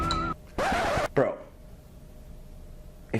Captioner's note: screeching